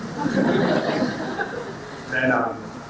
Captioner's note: audience laughing